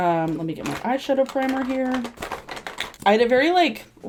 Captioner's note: rummaging